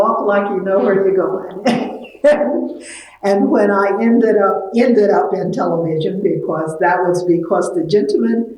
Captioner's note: laughs